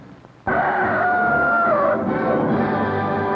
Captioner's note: rooster crows